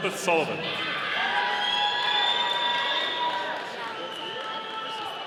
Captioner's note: audience cheering